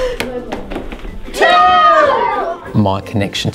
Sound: students cheering

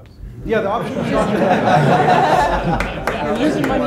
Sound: audience laughs

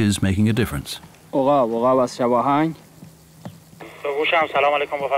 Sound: speaks Farsi to radio operator; radio operator answers in Farsi

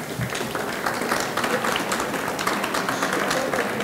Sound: audience clapping

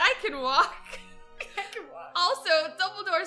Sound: both laugh

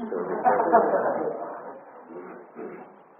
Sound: audience laughter

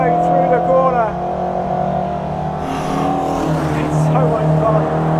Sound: engine revving

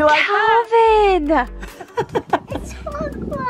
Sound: laughs

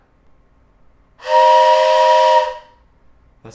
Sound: train horn noise

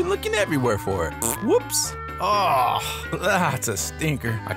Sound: Bandit lets out a stinky fart

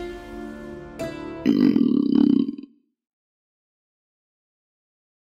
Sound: stomach rumbles

